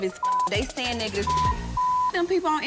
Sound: beep

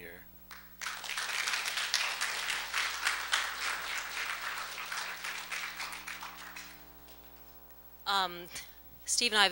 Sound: applause

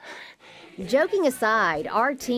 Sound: giggles

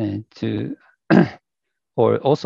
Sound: clears throat

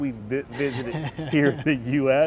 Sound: laughing

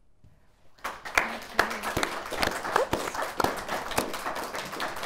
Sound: audience applauding

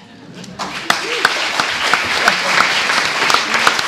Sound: audience applauds

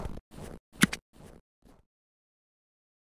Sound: click

